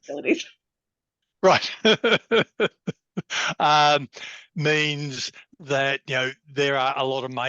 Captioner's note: laughs